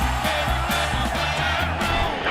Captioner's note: cheers and applause